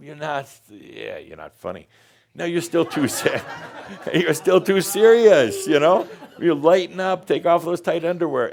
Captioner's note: laughter